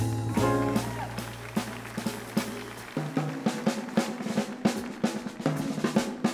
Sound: upbeat jazz music; audience applauds

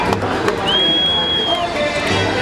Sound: whistles

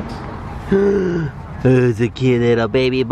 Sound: gasp

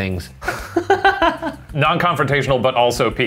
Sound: all laughing

